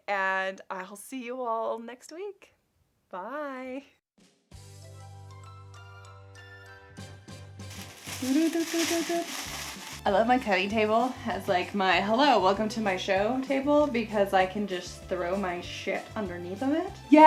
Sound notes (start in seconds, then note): 4.9 playful music; 7.6 tissue rustling; 8.0 humming